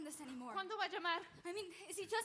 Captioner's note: speaks in Spanish